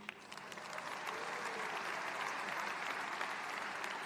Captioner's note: applause